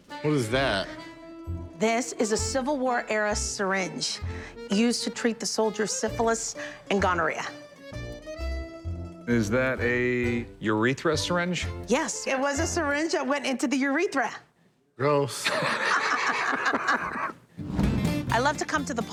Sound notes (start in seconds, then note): 15.4 laughter